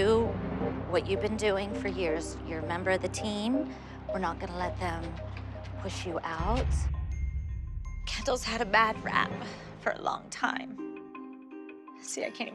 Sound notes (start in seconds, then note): 6.9 voice breaking